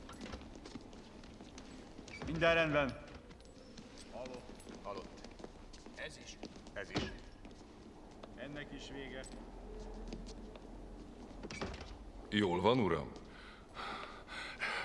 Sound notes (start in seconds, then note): 6.1 men talking; 13.3 panting, coughing